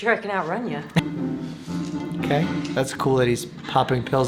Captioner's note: yelling